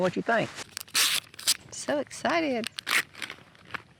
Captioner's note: tears wrapping paper